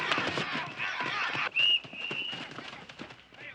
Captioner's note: whistle blowing